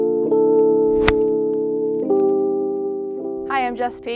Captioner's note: soft music; golf ball smacks